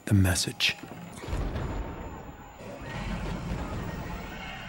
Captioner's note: explosions can be heard, screams of terror